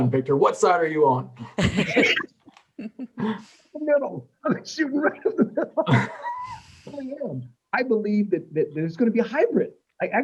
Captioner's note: laughter